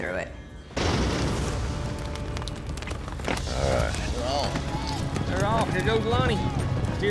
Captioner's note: hoofbeats